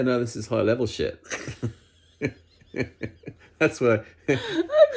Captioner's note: both laugh